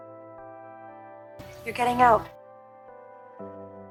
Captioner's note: voiceover